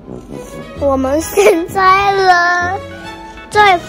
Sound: laughter

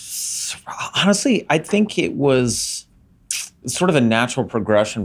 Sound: sucks teeth

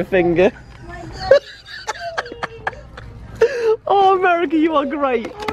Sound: laughing

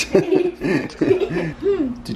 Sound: laughing

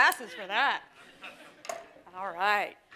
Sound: audience laughs

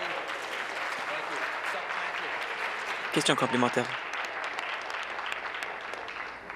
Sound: applause

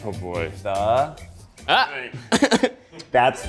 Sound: laughing

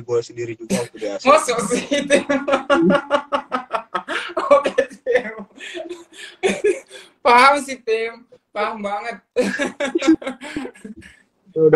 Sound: laughs

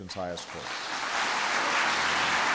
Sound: applause

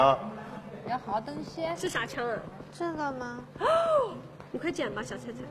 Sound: gasping!

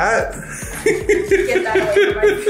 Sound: laughing

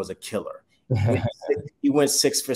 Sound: chuckles

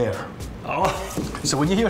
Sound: laughs

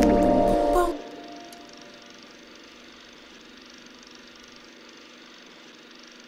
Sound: film projector running

